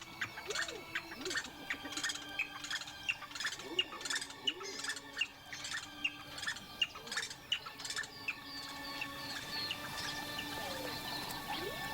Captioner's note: chirping